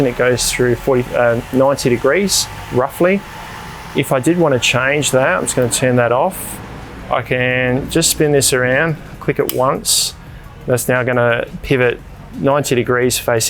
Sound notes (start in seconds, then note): 9.5 clicking sound